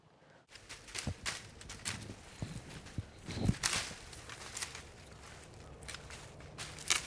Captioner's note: branches breaking